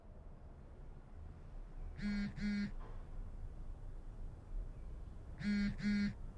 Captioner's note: cell phone vibrating